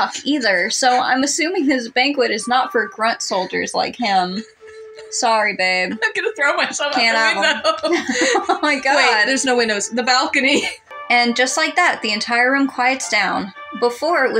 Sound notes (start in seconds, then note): 8.1 laugh; 10.4 chuckle